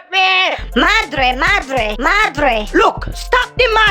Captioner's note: Spanish